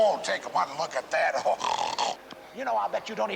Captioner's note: snorting